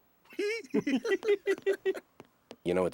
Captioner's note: giggling